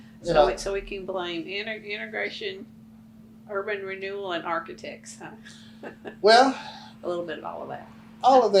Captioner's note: laughs; laughs